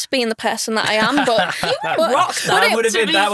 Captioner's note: chuckling